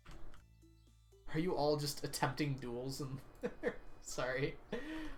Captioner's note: laughs